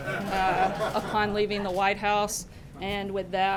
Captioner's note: laughter